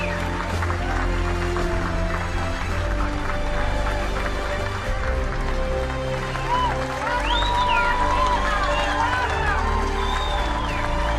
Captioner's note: applause